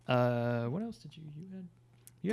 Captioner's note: murmurs